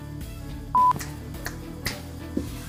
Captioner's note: snaps fingers